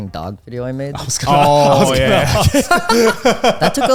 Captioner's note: all laughing